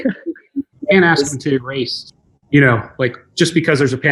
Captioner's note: murmurs|